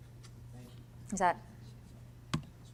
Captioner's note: voiceover